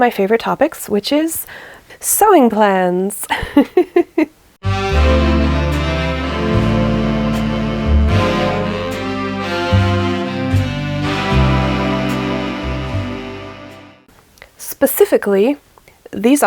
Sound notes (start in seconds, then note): 3.3 laughs; 4.6 sultry jazzy intro music